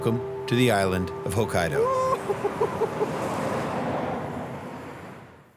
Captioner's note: chuckles